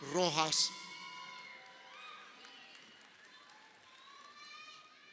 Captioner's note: crowd shouting